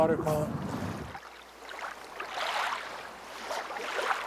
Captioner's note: water sloshing